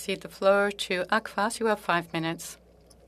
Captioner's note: speaking French